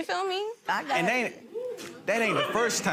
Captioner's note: gallery laughs